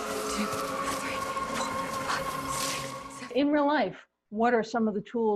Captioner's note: counting and panting